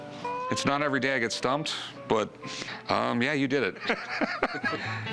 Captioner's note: laughter